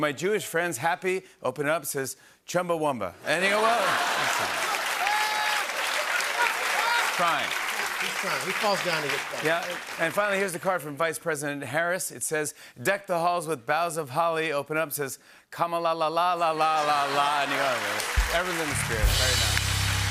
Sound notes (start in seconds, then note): 3.4 laughter